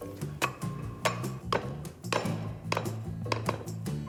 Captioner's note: pestle clanging